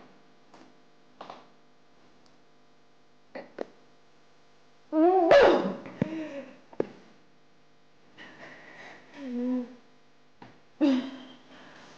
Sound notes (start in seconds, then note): 5.2 woman spits